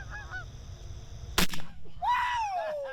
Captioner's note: gunshot blares; cheering